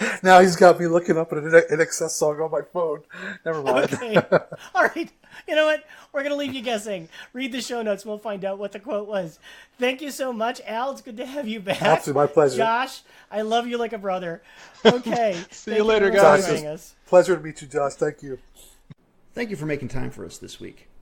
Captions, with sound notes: Now he's got me looking up an INXS on my phone. Nevermind. Right. [Laughing] We're going to leave you guessing. Read the show notes. We'll find out what the quote was. Thank you so much, Al. It's good to have you back. My pleasure. [Much more laughing] I love you like a brother. Okay. [Laughing] See you later guys! [More laughing] Pleasure to meet you Josh, thank you. Beautiful. Thank you for making time for us this week.